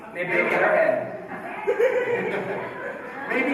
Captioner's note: laughter